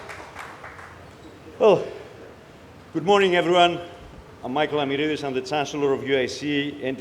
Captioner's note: applause